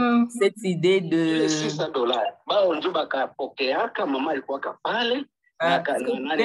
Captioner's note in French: voix masculine ayant une autre conversation